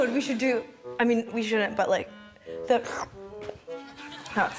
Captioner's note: sucks air